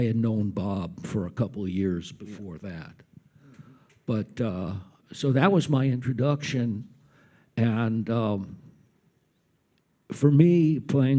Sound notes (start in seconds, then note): none